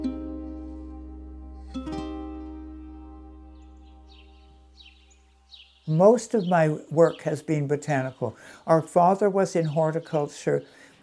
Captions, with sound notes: [birds chirping] Most of my work has been botanical. Our father was in horticulture.